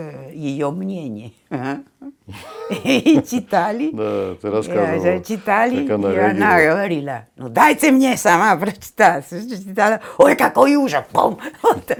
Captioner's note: laughter